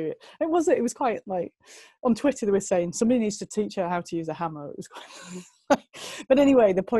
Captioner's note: lacht